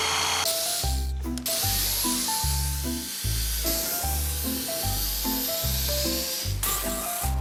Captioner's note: reciprocating saw